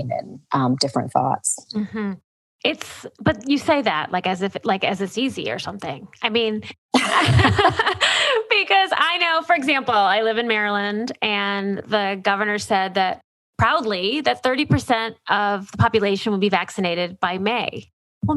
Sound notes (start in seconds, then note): 6.9 laughter